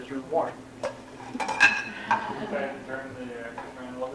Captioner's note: laughter